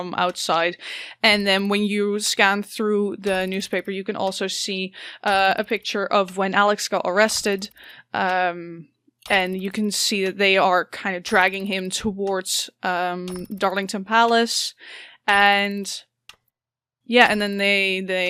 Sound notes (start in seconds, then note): none